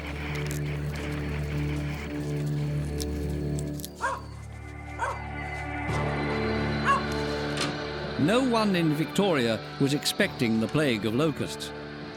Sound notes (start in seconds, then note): 4.0 dog barking; 6.2 suspenseful music